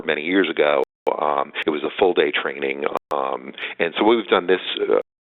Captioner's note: audio dropping